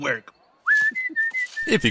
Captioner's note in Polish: Fiu fiu